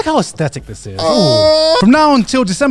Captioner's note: shouting